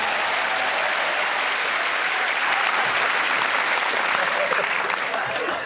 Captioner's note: applause